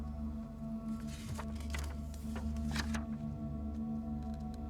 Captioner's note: pages rustling